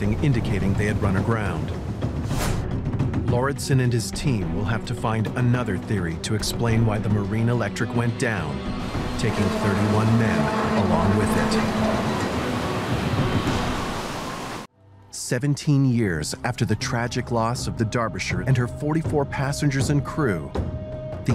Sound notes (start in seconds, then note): 12.6 metal clanking; 13.0 water gushing